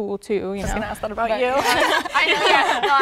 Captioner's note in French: rires